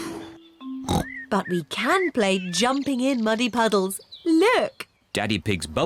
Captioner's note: oinks